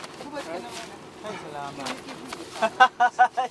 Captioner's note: crew chattering; laughing loudly